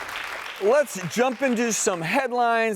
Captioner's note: audience clapping